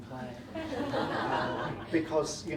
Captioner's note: audience laughing